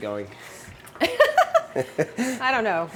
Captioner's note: chuckles